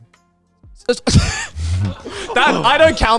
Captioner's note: laughs